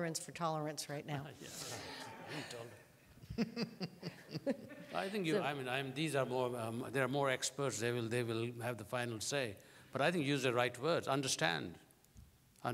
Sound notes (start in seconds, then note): 3.2 laughter